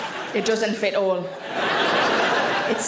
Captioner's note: audience laughing